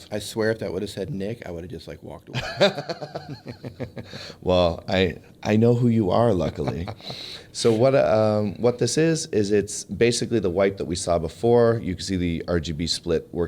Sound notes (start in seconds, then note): 2.4 laughs